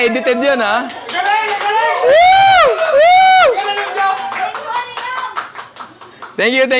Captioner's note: applause